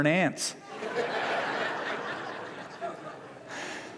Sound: laughter

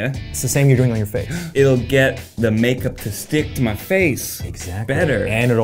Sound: gasps

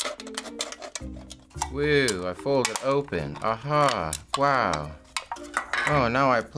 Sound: monotone

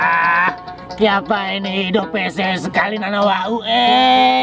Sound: using Gorontalo dialect

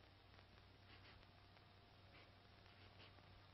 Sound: sniffing

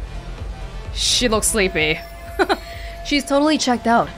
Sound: chuckles

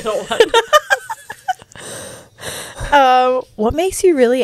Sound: panel laughing

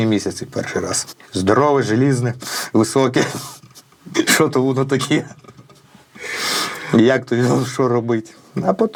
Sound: laughs

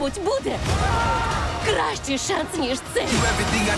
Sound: people screaming

